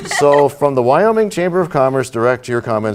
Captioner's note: laughter